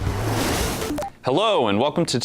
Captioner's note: electronic clicking; whoosh